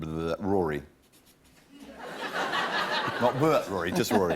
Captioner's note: laughter